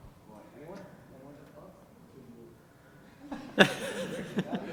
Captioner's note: laugh